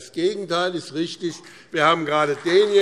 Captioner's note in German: Beifall BÜNDNIS 90/DIE GRÜNEN und CDU